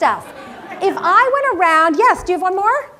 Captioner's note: laugh